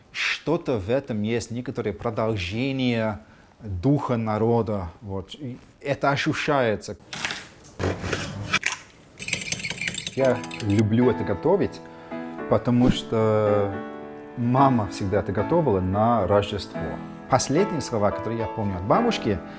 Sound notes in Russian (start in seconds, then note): 9.1 звук перемешивания